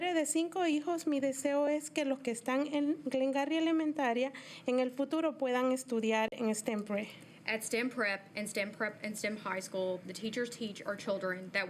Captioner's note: speaking in spanish